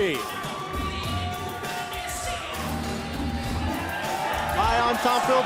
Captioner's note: crowd cheering